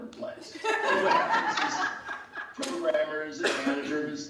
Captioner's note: laughing